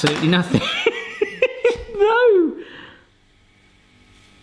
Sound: laughing

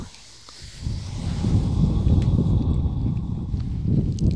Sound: blows

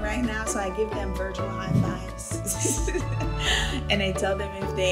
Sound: giggles

